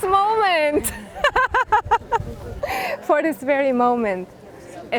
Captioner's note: laugh